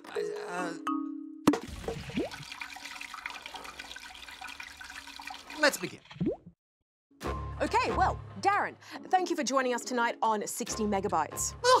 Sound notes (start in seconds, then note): 0.2 stammers; 1.6 oil sloshes; 1.6 oil trickles